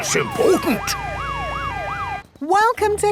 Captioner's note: sirens wailing